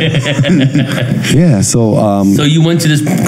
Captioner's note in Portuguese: todos rindo